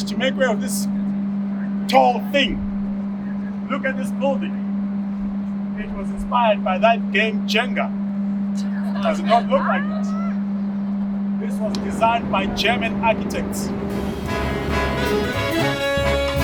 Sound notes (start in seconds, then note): 8.9 laughter; 14.2 jazz music playing